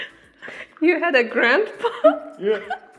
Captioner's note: laughs